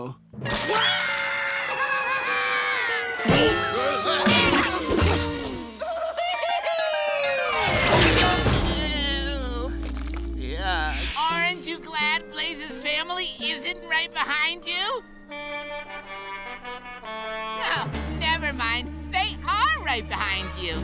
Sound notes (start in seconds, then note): 0.6 screams; 3.1 grunting; 15.3 honking